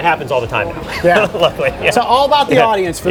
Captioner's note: laughs